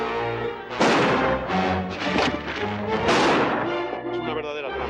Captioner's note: gunshots